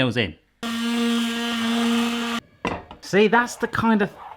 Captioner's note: whirring